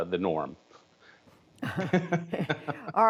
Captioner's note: laughter